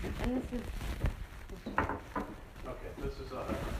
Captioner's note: knock